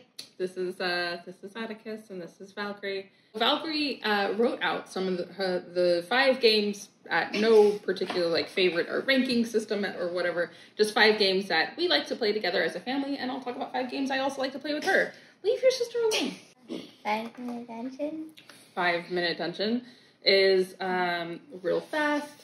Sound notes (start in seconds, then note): 17.1 whispering